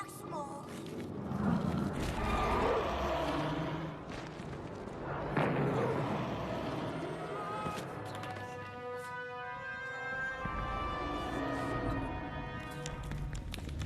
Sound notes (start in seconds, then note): 1.3 roaring; 5.6 screams